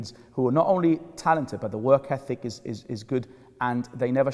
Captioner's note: none